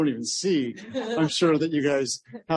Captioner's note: laughter